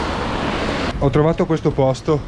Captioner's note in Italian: Rumore di pioggia battente